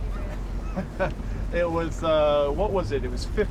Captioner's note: laughs